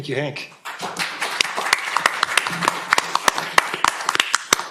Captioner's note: applause